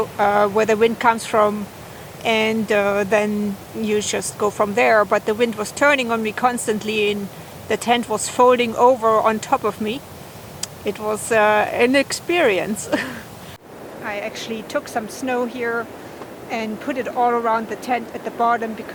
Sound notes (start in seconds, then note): 12.7 laughs